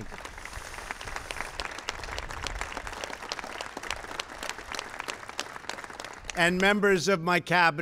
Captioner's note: applause